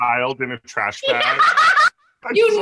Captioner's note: laughter